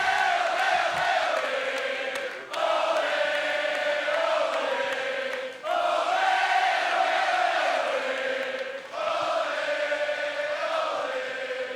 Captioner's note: fans chanting